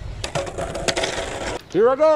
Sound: skateboard rolling

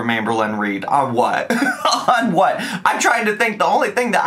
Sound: laughs

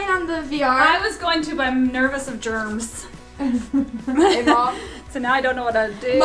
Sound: laughs

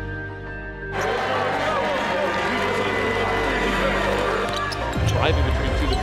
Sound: cheering sounds

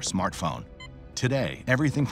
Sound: phone beeping

